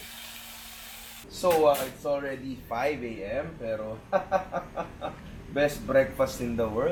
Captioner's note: laughs